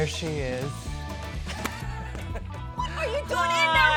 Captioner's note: laughs